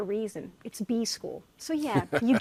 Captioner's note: laughing